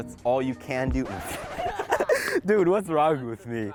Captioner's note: laughing